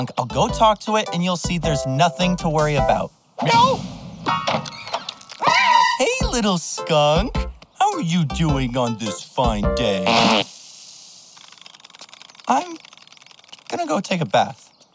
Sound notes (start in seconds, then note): 3.0 meows; 4.7 screeches; 10.0 farts